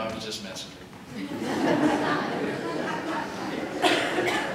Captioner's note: laughter